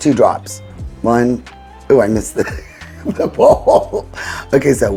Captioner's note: laughing